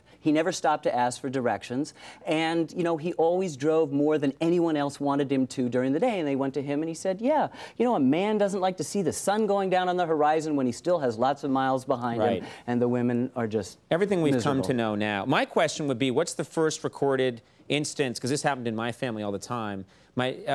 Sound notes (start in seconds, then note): none